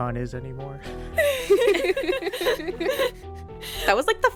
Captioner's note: laughter